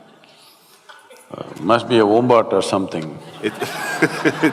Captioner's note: Matthew laughs